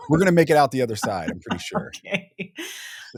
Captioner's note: laughing